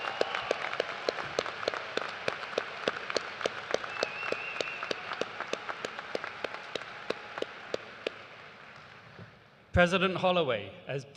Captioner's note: cheers and applause